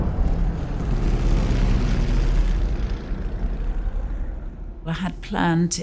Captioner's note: bombs exploding; airplane engines whirring